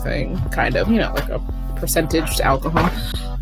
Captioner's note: sharp inhale